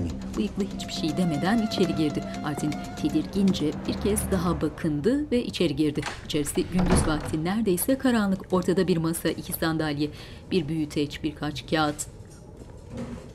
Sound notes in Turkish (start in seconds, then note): 0.2 Müzik - Gerilim; 6.0 Kapı kapanma sesi